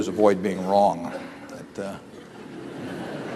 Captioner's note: laughter